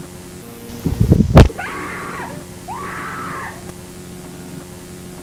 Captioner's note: screaming